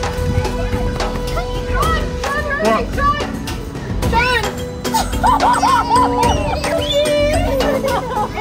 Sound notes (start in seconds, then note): 4.8 family squealing